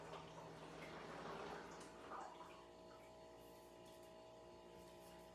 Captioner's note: water dripping, whirring stops